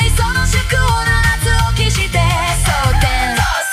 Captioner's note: cock-a-doodle-doo!